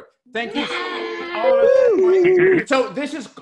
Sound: cast cheering

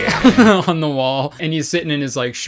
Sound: laughs

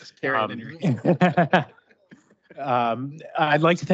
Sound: group laughs

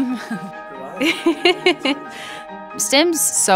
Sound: laughing; laughs

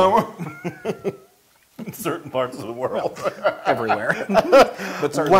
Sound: laugh

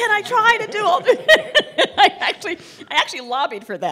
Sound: laughter

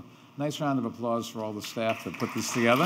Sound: audience applauding

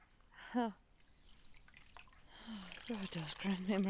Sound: Brigit sighs

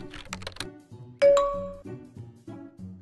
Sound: Messenger pings

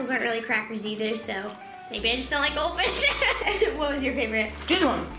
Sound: laughs

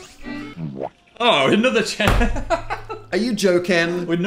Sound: laughs

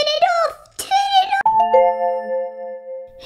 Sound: ding!

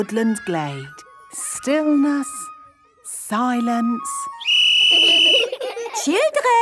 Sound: whistle blowing; laughter

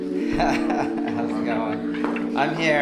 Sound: man laughing

